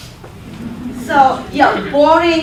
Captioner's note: laughter